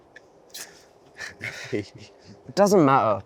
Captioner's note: Ayman chuckles